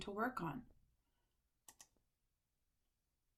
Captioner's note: click